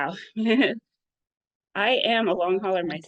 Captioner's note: chuckles